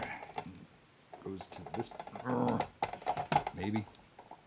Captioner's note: grunts